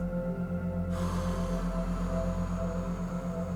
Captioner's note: exhales